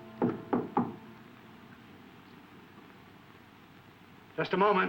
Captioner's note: person knocking